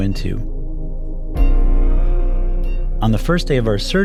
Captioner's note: heart monitor beeps